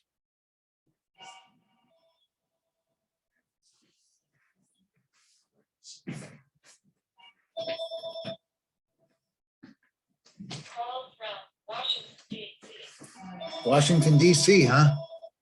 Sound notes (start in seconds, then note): 7.5 phone rings; 11.2 voice Over Phone